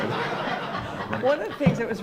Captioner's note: crowd laughs